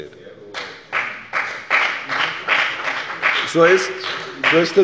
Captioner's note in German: Beifall bei der FDP und bei Abgeordneten der SPD